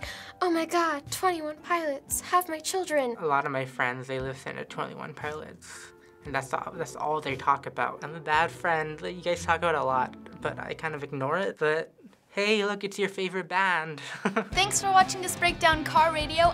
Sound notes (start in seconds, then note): 14.0 chuckles